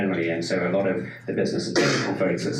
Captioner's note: sneeze drowns out speaker